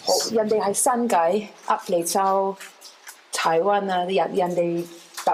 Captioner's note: speaking chinese